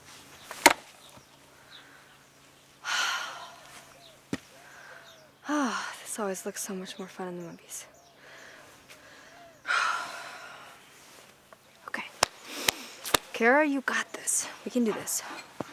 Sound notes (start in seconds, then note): 2.8 sighs; 8.2 sighs